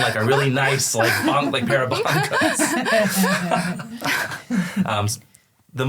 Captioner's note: all laugh